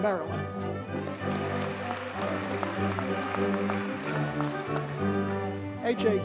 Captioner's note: audience cheers and applauds